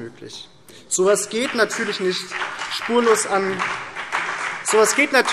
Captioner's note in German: Beifall BÜNDNIS 90/DIE GRÜNEN und vereinzelt CDU